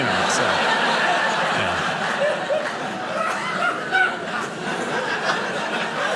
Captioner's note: audience laughing